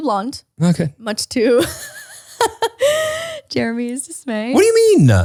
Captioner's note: laughs